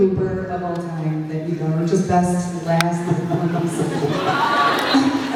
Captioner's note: laughs